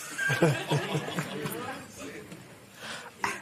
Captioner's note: laughter